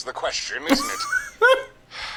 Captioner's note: laughs